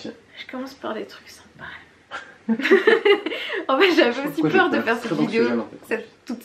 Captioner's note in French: rires